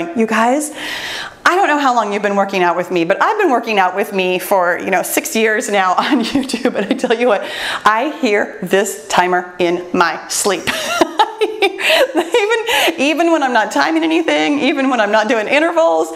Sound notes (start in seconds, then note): 10.7 laughs